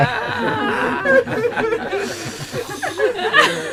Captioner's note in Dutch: Gelach